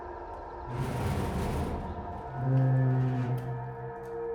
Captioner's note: metal scraping